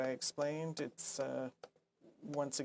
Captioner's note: speaking French